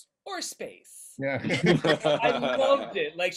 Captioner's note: everybody laughing